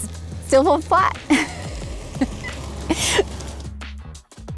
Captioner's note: laughs